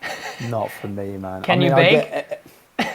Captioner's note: laughter